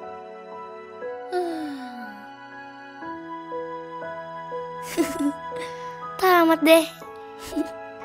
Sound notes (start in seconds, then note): 4.9 laughing